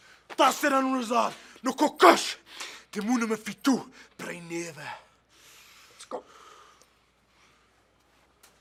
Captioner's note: speaking foreign language